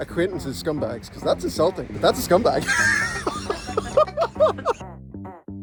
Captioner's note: laughs